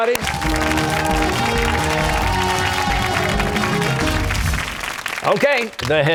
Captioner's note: cheers and applause